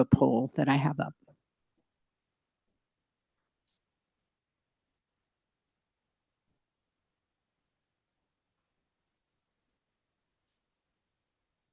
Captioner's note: extended silence